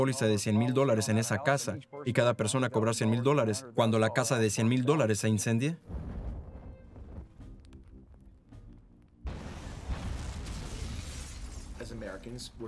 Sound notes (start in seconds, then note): 9.2 explosion roars; 10.6 fire crackling; 12.4 explosion booming